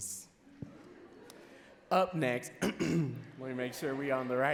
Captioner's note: clearing throat